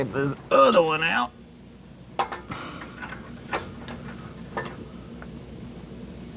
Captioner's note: metal Clanking